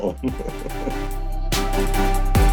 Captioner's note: upbeat music continues; laughing